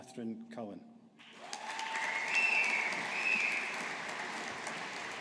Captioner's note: audience applauding